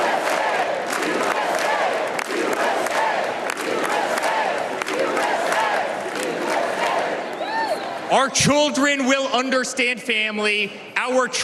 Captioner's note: cheers and applause